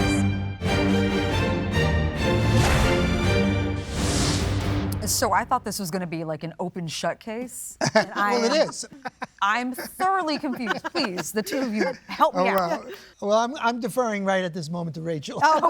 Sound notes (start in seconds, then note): 0.0 dramatic music; 7.8 laughs